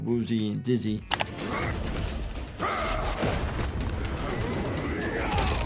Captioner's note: characters grunting; bones crunching